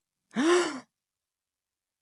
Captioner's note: gasp